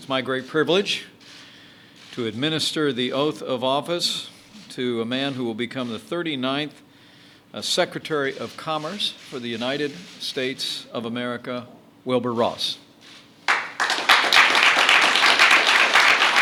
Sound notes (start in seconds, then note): 13.4 applause